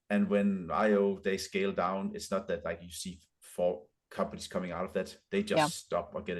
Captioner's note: none